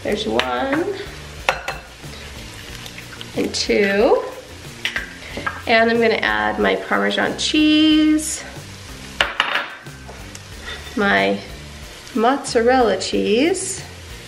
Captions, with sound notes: there's one, (egg cracks) and two, and I'm gonna add my Parmesan cheese, my mozzarella cheese,